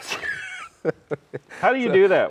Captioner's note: laughing